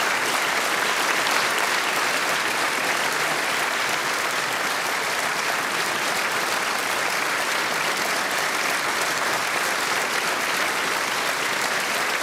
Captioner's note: applause